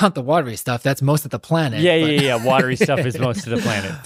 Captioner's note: laughs